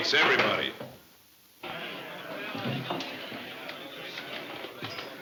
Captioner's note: crowd chattering